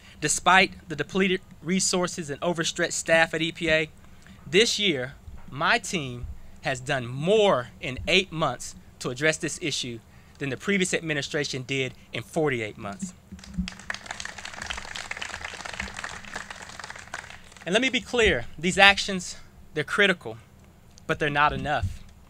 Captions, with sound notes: Despite the depleted resources and overstretched staff at EPA, this year, my team has done more in eight months to address this issue than the previous administration did in 48 months. [CLAPPING] And let me be clear, these actions, they're critical, but they're not enough.